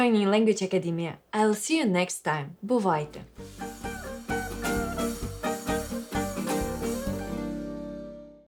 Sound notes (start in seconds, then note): 4.8 in Ukrainian